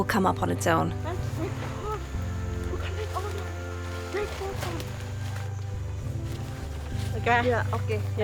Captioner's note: speaking in foreign language